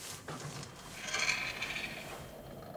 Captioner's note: soft scratching